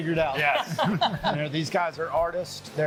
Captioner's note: laughing